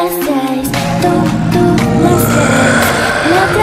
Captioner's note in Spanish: Void gruñe